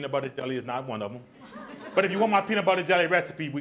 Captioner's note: audience laughs